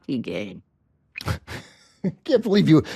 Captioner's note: laughs